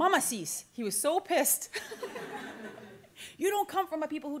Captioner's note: laughter